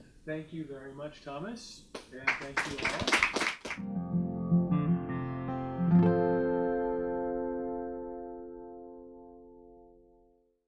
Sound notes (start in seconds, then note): 2.0 audience clapping; 3.8 gentle music